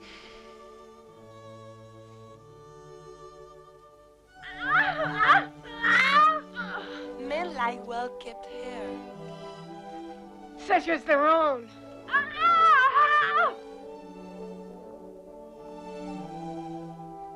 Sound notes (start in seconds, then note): 0.1 Hundra sighs; 4.8 Hundra shouting; 12.0 Hundra screams; 14.4 elegant music